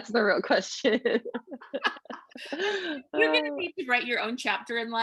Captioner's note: laughing